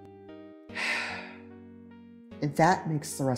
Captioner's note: le sigh